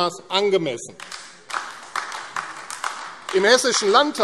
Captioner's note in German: Beifall AfD